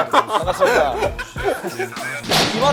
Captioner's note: laughing